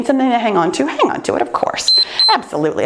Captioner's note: timer beeps